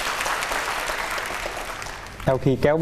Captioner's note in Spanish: aplauso